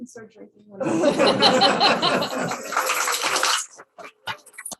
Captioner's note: laughter